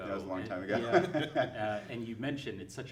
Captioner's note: chuckling